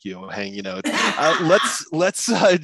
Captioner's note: laughs